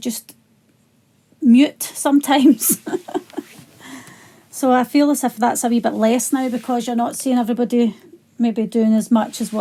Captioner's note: laughs